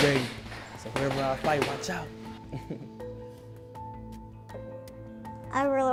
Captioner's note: laughter